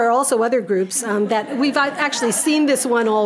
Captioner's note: audience laughing